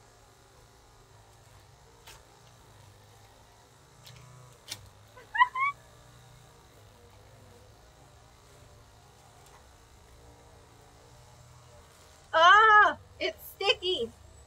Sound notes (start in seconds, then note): 5.1 laughs